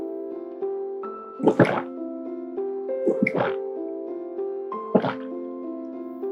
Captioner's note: satisfying gulps